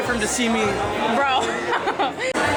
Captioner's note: laughter